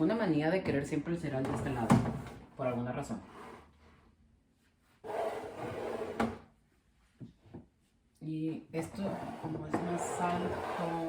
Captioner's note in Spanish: rambles in Spanish